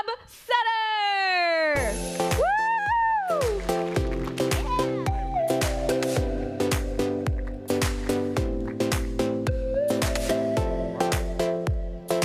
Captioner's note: applause